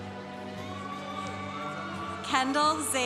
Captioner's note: congregation cheering